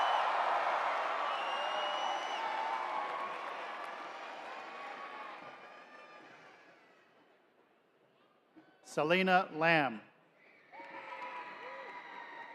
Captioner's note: cheering